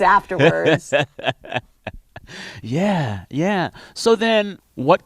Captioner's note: laughter